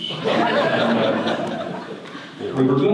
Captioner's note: audience laughter